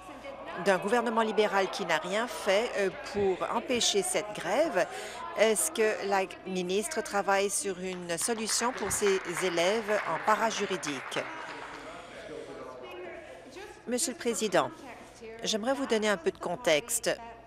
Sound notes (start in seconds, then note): 12.0 applause